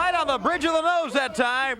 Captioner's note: crowd chatter; crowd cheering